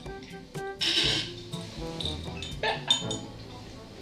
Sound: drunk laughing

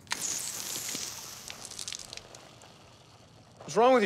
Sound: drink spurting

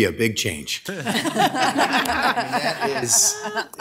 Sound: everybody laughing

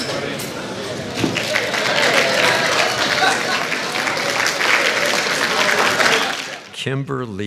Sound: applause, crowd cheers

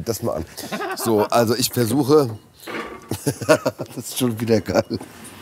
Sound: laughs

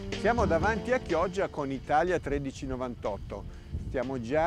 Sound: speaking foreign language

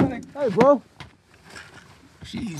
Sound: tapping

